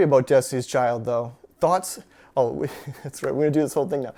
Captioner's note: chuckles